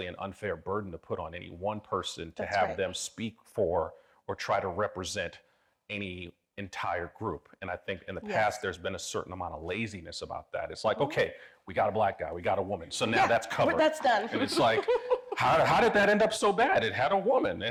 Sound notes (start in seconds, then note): 13.8 laughing